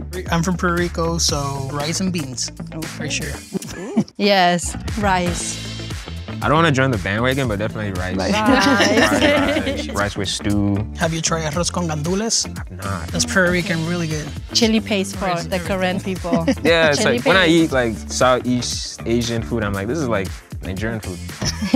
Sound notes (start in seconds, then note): 9.2 group laughing; 11.9 speaking in foreign language; 21.4 group laughing